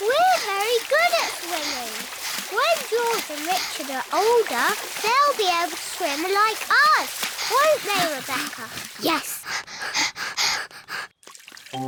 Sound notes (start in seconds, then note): 9.9 both panting